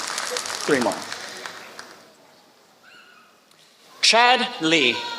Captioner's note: applause